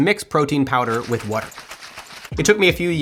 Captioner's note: cup rattles